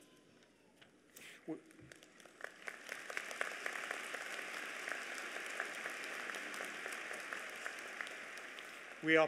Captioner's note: applause